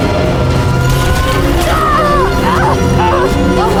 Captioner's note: inora painful yell